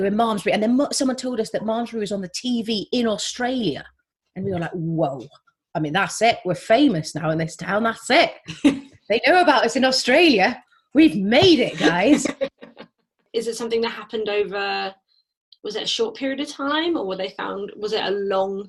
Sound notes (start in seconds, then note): 11.6 laugh